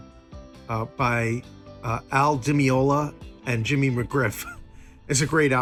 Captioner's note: chuckles